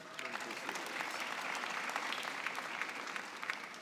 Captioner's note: applause